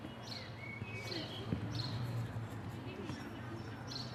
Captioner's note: birds chirping